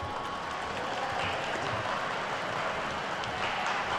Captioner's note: attendees clapping